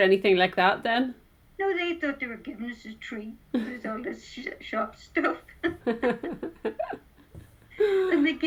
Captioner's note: both laugh